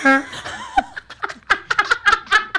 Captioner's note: laughs